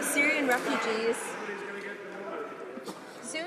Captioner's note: some Applause